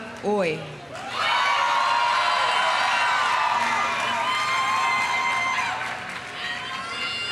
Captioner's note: audience applauding; audience cheering